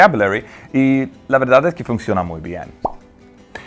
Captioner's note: speaks Spanish